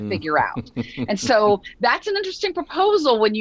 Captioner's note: chuckles